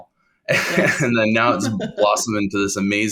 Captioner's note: laughing